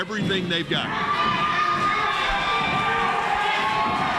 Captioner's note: crowd cheers